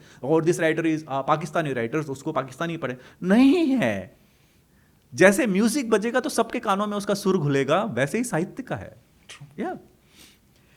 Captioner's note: hindi; hindi